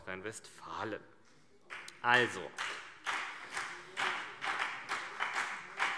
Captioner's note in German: Beifall BÜNDNIS 90/DIE GRÜNEN